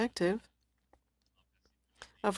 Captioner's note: speaking french